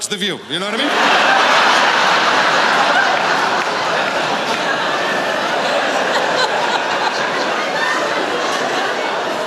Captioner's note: laughter